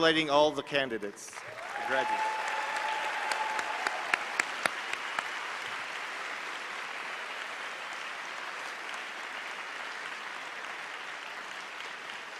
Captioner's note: applause